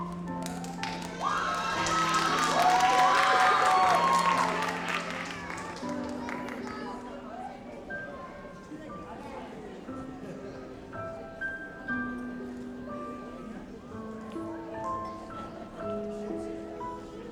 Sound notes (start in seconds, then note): 2.5 audience applauds; 6.3 gentle music